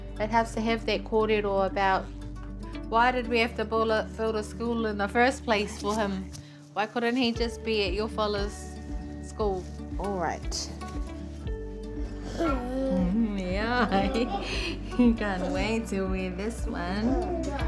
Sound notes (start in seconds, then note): 13.6 chuckles